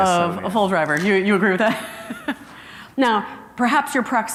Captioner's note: chuckles